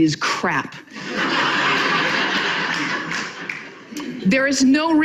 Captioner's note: audience laughing